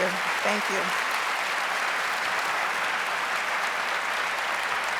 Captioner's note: audience applauds